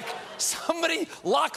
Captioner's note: audience reacts